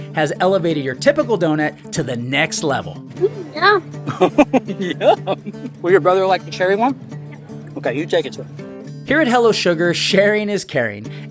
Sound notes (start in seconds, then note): 3.1 laughing